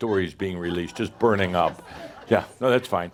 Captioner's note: some chuckles